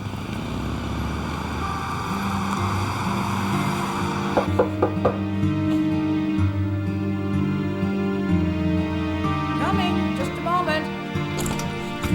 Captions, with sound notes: (dramatic orchestral music) (knocking on door) - Coming, just a moment.